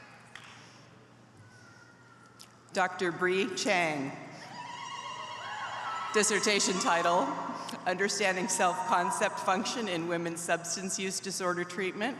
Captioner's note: applause